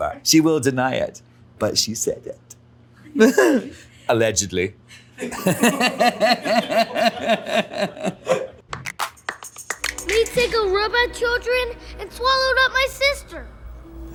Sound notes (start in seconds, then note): 5.1 Alan and crew laugh; 9.8 upbeat music begins